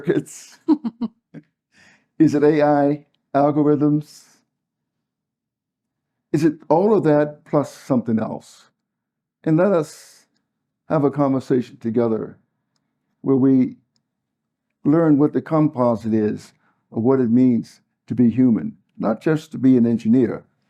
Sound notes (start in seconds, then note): 1.0 laugh